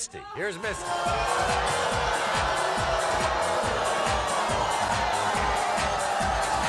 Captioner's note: audience jeering; bass-heavy music